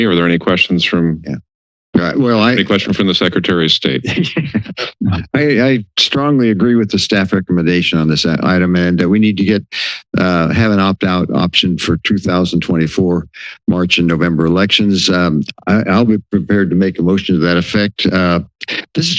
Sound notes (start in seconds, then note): 3.9 laughter